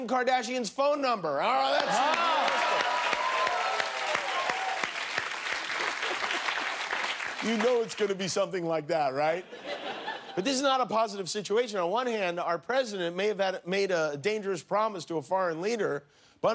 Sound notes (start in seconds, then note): 9.2 applause